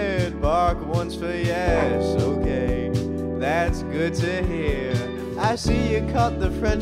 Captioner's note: Ted barks